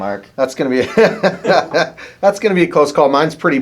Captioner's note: laughs